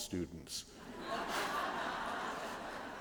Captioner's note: laughter